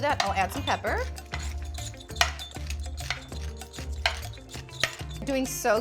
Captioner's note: pepper mill clinks; tongs tap